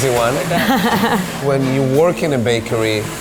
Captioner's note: laughing